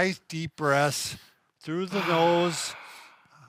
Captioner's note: exhales